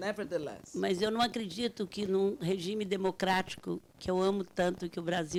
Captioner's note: speaking Portuguese